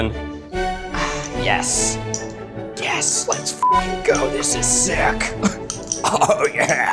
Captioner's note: beeping; laughs